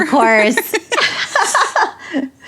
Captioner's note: laughs